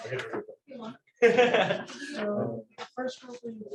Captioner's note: laughter